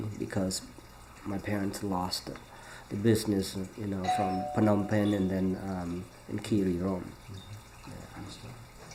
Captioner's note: doorbell rings